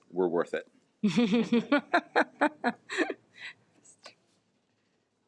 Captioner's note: attendees laugh